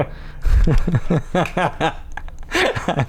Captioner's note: laughter